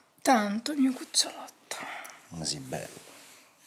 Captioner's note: none